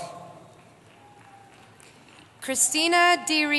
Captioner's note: cheering